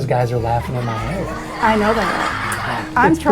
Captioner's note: children laughing